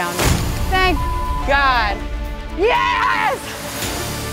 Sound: beeps

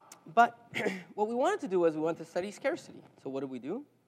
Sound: cough

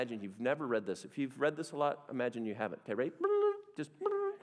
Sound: makes blipping noise

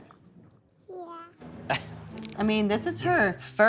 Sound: chuckle

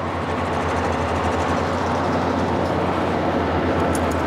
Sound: wind howls

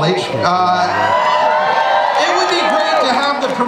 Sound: audience cheers

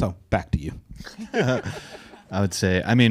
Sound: audience laughing

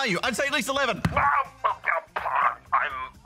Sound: stutters

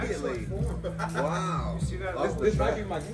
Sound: laugh

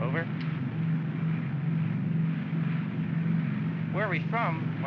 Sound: aircraft rumbles

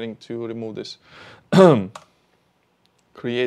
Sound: clears throat

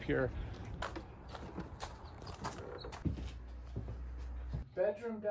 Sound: door cracks open

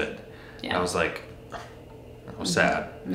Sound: sighs

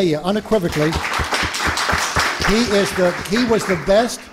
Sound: applause

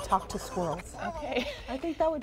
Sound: laughs; squirrel squeaking

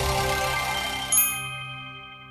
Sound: dinging

